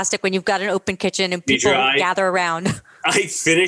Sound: laughs

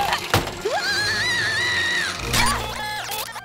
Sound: screams

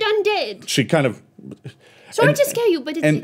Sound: stammers

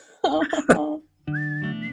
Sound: laughing

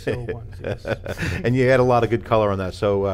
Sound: laughter

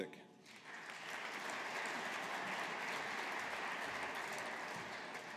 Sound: audience applauding

